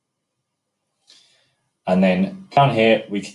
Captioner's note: breaths in heavily